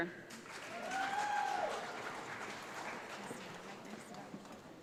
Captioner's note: audience applauds